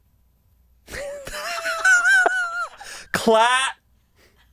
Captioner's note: laughing